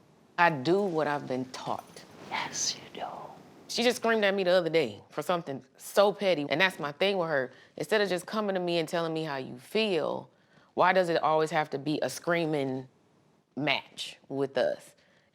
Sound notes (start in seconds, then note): 2.1 whispers